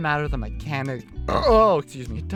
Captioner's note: Belch